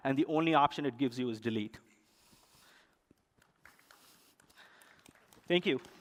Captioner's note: applause